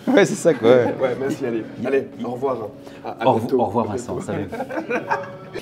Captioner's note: laughs